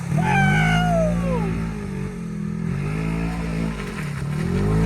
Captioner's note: cheering; ATV engine roaring